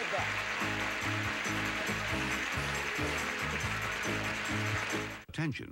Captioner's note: audience applauding